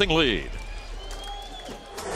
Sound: crowd cheering

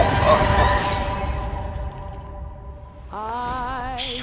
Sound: glass shatters

